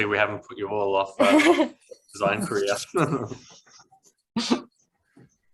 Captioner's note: laughs